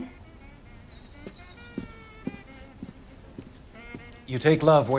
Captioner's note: footsteps thudding